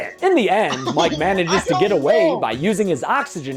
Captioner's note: laughs